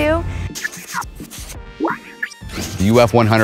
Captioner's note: computer sounds